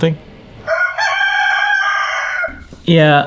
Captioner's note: rooster crowing